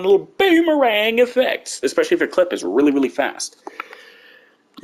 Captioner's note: dramatic voice; normal voice